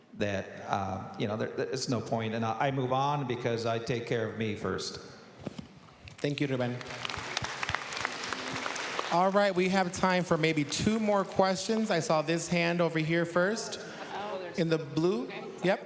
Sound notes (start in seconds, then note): 6.4 applause